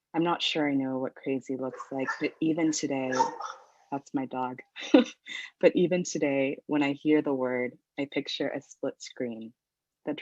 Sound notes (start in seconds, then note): 3.1 dog barks; 5.0 laughs